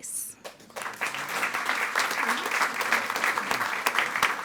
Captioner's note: all applauding